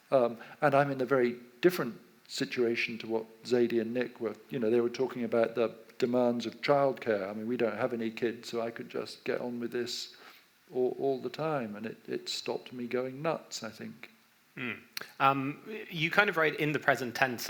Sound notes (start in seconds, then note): none